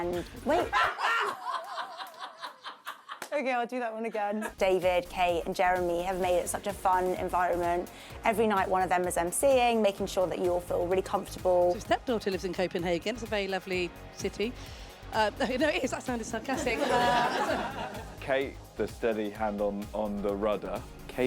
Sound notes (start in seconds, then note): 1.2 crew laughs; 16.5 audience laughs